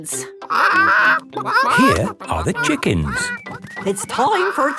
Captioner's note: clucking